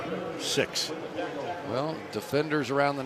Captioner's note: pa announcement